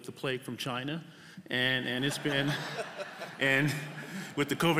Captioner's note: laughter